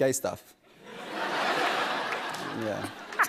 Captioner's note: laughter; laughter continues